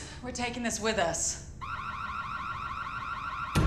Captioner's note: siren wailing; dramatic music playing